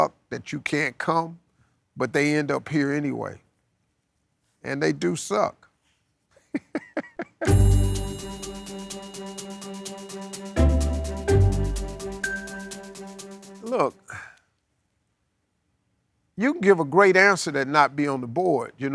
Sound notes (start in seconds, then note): 6.4 laughing; 7.4 upbeat instrumental music